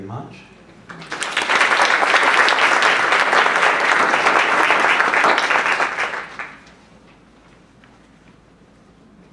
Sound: applause

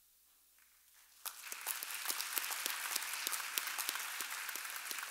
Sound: audience applauding

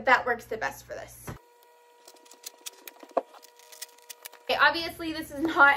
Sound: cutting

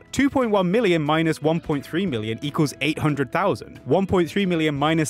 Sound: none

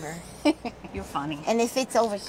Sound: laughs

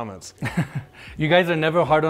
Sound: laughing

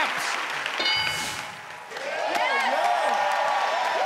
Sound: ding

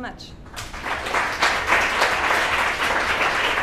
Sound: applause

